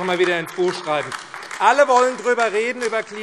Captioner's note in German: Beifall AfD